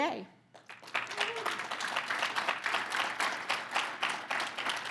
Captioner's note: audience applauds